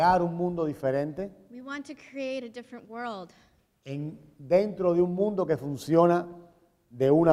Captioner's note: speaking in Spanish; speaking in Spanish